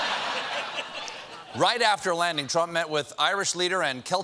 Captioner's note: laughter